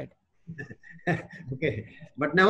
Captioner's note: both laugh